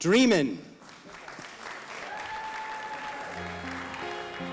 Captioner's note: audience applauding